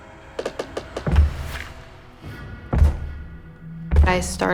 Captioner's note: floor creaks; thumping footsteps